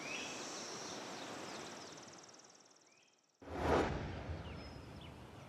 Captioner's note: nature sounds